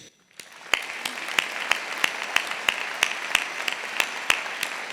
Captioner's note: audience applauding